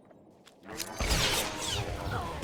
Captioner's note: gun firing